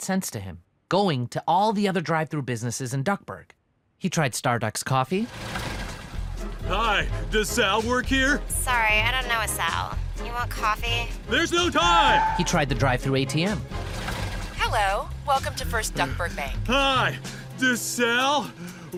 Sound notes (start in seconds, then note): 5.2 car stopping; 11.3 tires screech; 13.6 car stopping; 18.4 breathing heavily